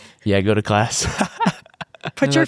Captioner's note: laughs happily